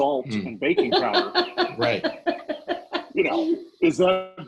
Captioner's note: laughing